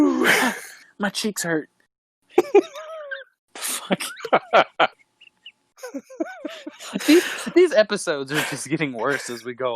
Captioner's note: all laughing